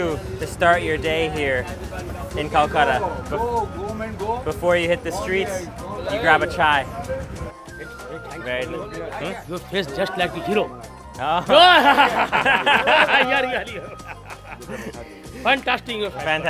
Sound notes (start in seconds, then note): 11.4 both laughing